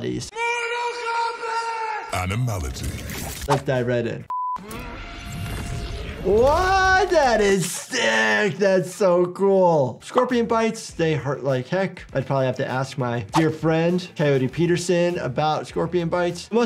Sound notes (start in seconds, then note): 4.1 fighter groans